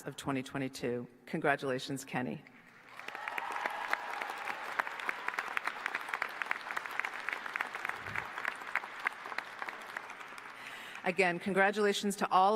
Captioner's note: applause